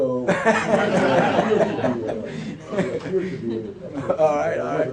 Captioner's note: laughter followed by a mumbled answer